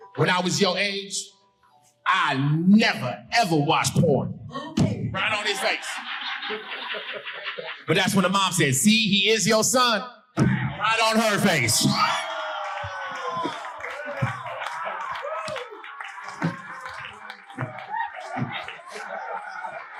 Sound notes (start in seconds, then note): 4.6 thumps mic; 5.1 audience laughing; 10.7 audience laughing and cheering; 11.6 thumps mic